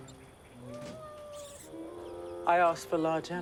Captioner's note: cat meowing